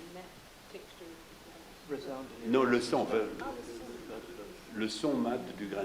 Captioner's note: people chattering in French